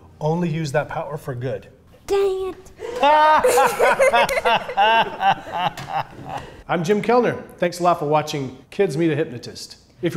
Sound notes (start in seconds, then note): 2.8 laughing